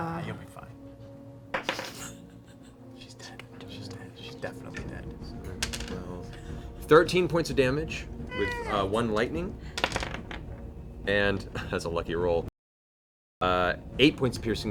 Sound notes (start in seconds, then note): 3.1 whispering